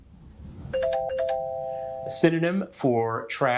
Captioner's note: bell ringing